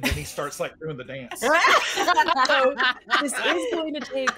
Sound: all laughing

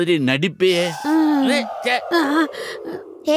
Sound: gasping

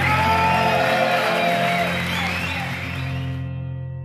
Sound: crowd cheers

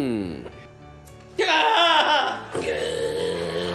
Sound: moaning; screams

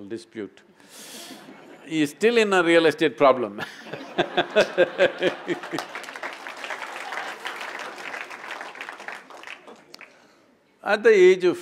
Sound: laughter; laughter/Applause

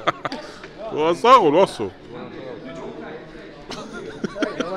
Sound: In Georgian

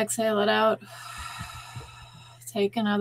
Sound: exhaling

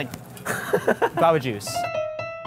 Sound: laughs; classy piano music

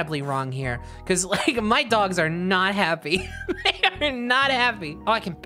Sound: laughing

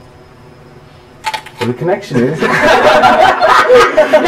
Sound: crunch!

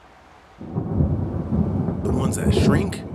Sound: thunder rumbling

